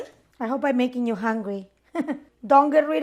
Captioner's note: laughs